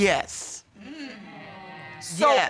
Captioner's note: audience exclaim